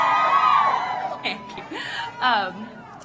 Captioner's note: applause